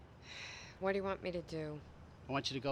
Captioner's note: sighing